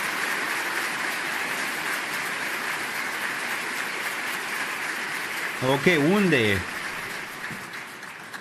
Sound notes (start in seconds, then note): 0.0 applause